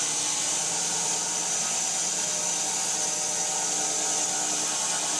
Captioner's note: saw continues whirring